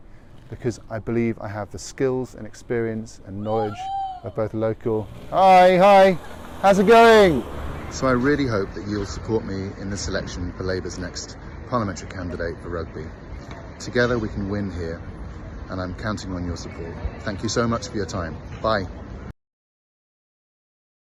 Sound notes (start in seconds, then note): 5.4 shouted from car